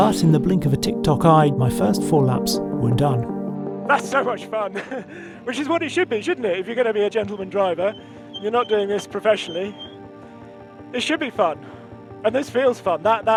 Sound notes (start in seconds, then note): 3.0 gentle upbeat music; 4.7 chuckles